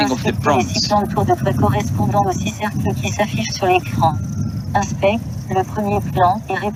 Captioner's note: woman speaking in foreign language